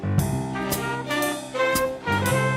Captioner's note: none